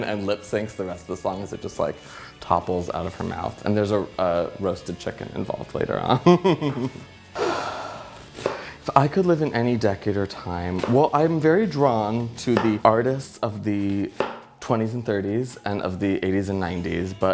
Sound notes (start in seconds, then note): 6.0 giggles; 7.3 sighs